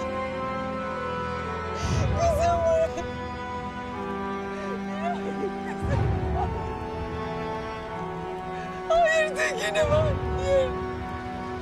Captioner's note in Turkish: Ağlama sesi